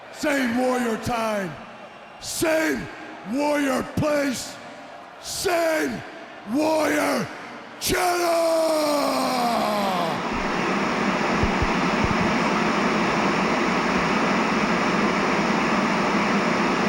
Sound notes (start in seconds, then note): 10.3 static crackling